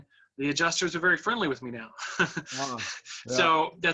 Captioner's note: laughs